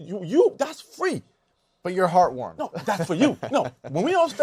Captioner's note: laughs